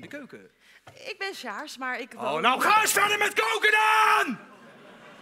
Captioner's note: shouting like a dictator